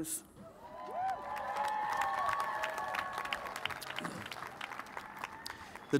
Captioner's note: cheers and applause